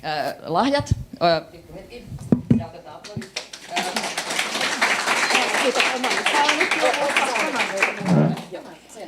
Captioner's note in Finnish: aplodeja